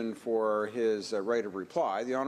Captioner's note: speaking French